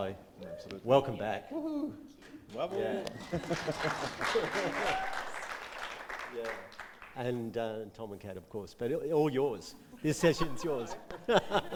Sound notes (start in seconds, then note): 2.2 audience clapping; 10.2 audience laughing